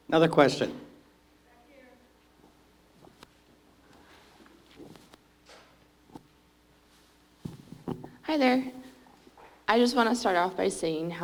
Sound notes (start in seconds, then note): 6.9 audience member speaking